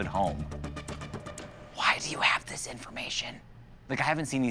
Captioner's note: whispering